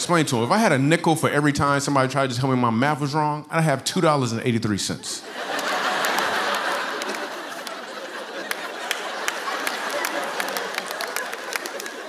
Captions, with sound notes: I explain to them, if I had a nickel for every time somebody tried to tell me my math was wrong, I'd have $2.83. (laughter)